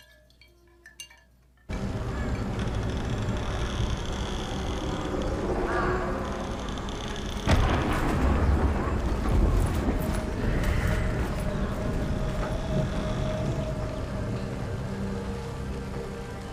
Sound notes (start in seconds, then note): 1.9 wind howling; 7.3 thunder claps; 12.4 suspenseful music